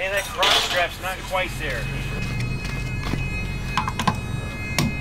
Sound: whirring

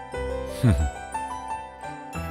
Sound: chuckles

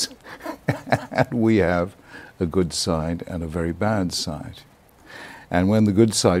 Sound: laughs

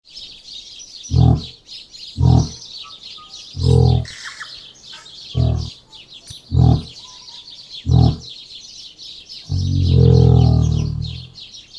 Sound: bird song

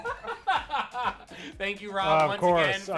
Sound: laughs

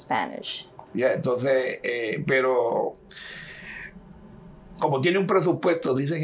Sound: speaking in Spanish

